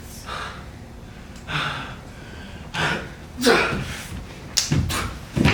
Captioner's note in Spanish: Respira profundamente